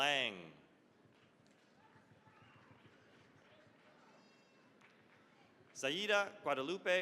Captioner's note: applause